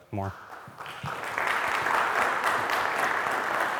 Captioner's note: audience claps